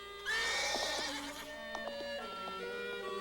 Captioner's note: horse neighing